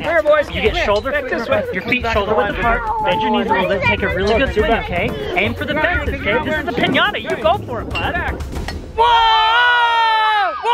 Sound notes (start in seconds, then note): 8.6 clunk